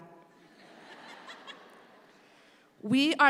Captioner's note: speaks in Spanish; audience laughs